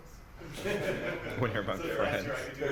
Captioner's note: laughter